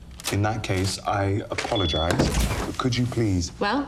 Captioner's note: door beeping